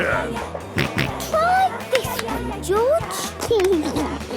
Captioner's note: George snorts; giggles